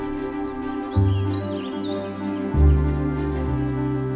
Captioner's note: birds chirping